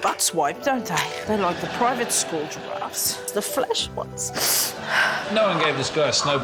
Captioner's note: tearfully; sniffles